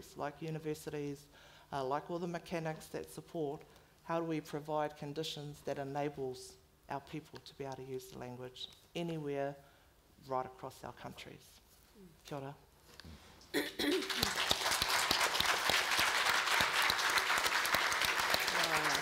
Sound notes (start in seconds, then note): 12.1 foreign language; 13.8 all clapping